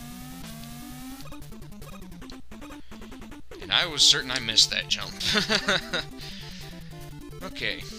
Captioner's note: nervous laugh